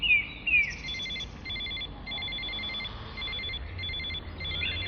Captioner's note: phone ring